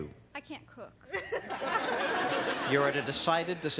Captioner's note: laughter